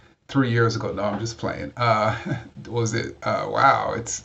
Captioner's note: chuckles